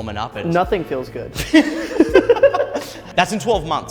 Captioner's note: laughter